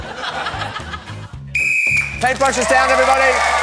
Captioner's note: blows whistle; cheering and applause